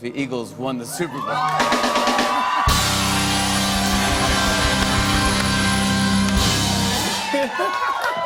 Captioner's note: cheers and applause